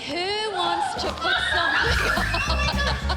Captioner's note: girls squealing; laughing